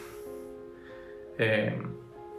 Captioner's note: sighs